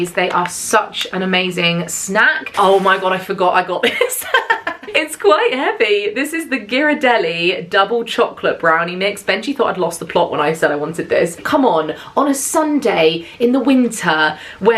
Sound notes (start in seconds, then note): 4.5 laughs